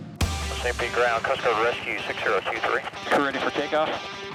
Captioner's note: radio chatter